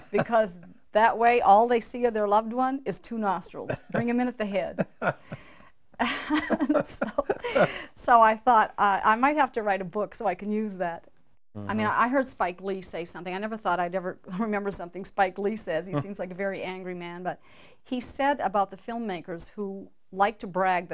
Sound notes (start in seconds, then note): 4.6 laughing